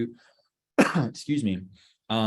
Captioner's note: coughs